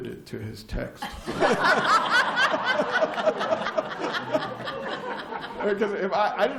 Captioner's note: laughter